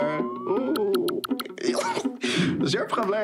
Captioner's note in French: rire